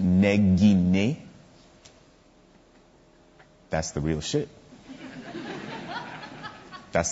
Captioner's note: audience laughter